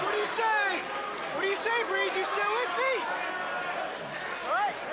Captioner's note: crowd chatter